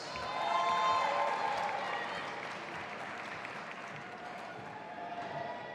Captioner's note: audience applauding and cheering